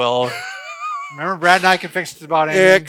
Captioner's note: laughs